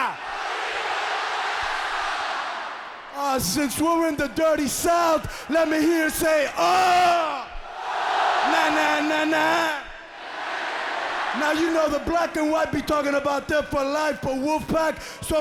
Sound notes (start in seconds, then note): 0.0 crowd cheering; 7.8 crowd cheering; 10.3 crowd cheering